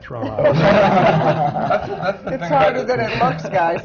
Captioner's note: laughter